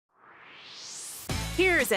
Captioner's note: swoosh